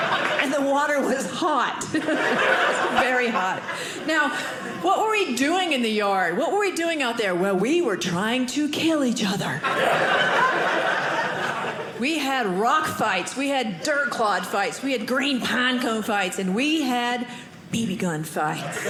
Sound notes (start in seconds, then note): 9.6 audience laughing